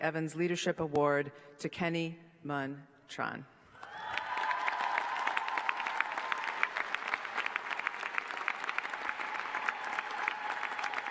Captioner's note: applause